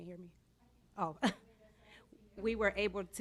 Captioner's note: chuckles